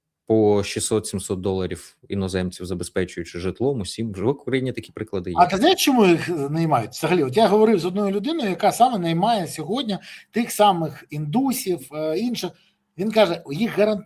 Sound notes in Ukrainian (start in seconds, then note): 6.7 сміх